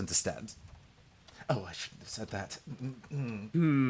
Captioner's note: whispers